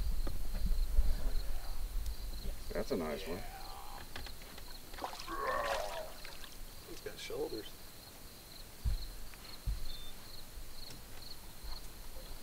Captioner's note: growl